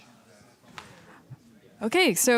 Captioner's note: background chatter